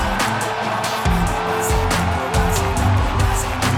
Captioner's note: crowd cheering; rocking hip-hop beat